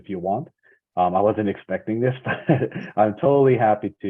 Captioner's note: laughs